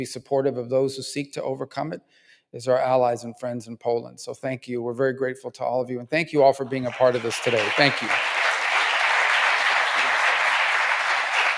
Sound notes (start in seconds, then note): 10.6 applause